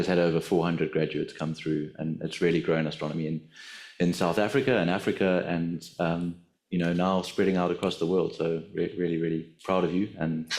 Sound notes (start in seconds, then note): none